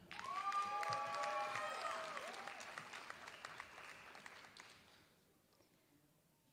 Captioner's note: applause